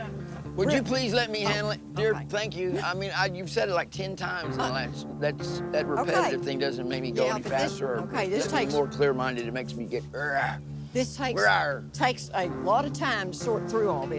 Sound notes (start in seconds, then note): 10.3 growls